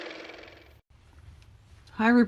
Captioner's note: car motor